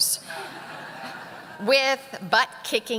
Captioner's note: audience laughing